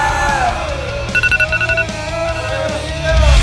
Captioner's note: iPhone alarm